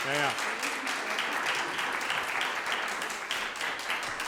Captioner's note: applause